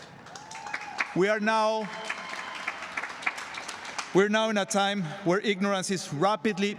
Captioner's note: applause